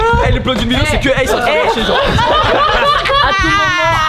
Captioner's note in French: rires